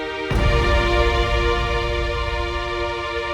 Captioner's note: image banging continues; intense dramatic music continues